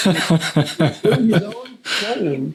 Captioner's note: laughing